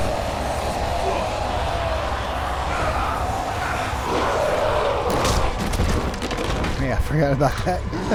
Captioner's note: Sinamoi fighting noise, Zombies growling